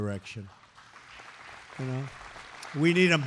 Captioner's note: applause